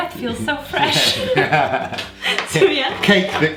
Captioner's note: laugHing